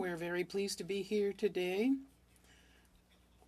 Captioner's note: speaking French